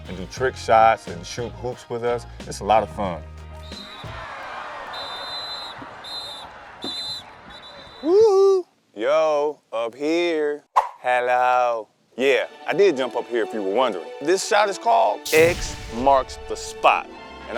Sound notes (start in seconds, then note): 3.8 audience applauding; 4.8 ref's whistle blaring